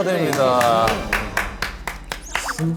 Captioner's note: more cheers